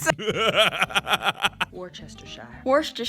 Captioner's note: laughter